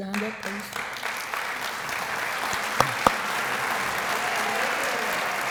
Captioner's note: applause